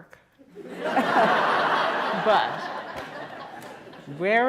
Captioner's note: laughter